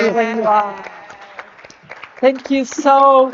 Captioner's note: audience clapping